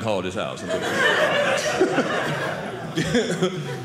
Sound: audience laughing

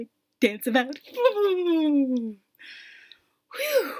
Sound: silly noises

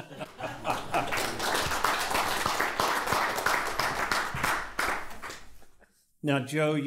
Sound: applause

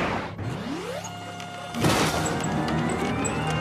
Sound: ship powers up

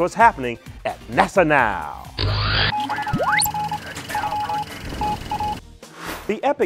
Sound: sound Effects

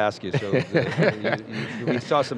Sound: laughter

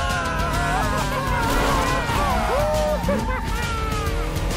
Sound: tires squealing; engine roaring

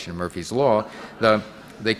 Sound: audience laughing

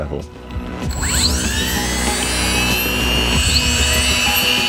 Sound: machine buzzing

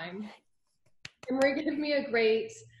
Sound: claps

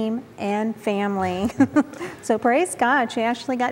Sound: giggle

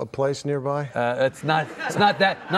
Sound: laughing; laughs

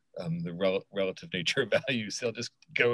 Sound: laughs

